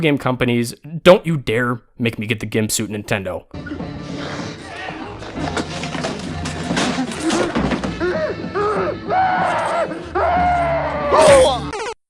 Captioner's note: muffled screaming; Mario death noise